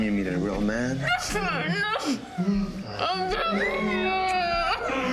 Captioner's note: victims groaning